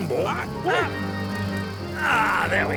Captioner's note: Sherblock yelps at moths